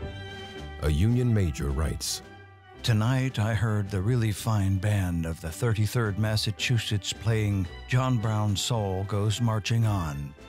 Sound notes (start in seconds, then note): none